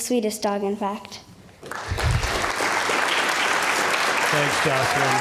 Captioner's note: applause